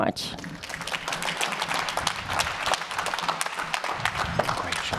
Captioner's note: audience applauding